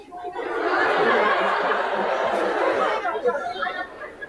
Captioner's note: audience laughing